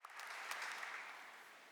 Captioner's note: applause